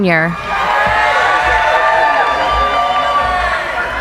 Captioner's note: cheering